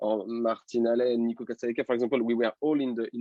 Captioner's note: voice muffling